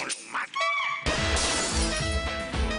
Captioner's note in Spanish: Grita